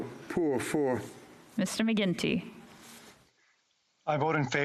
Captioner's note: speaking French